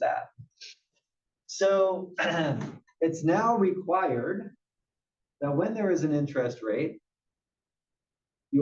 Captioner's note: cough